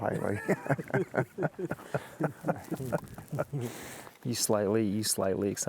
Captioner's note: laughing together